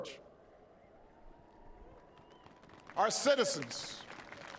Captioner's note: applause